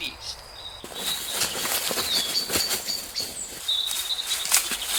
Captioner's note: birds chirping